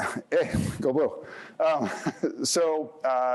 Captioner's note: chuckles